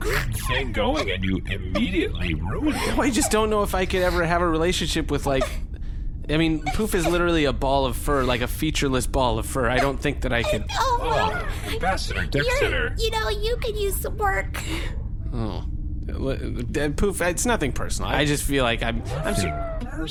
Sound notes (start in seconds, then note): 9.2 Poof sobs in protest; 13.1 reprovingly